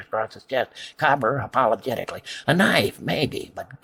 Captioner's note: apologetically